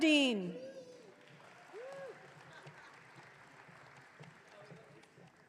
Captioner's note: audience cheering